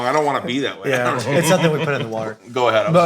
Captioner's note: all laughing